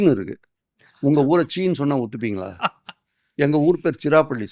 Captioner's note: laughs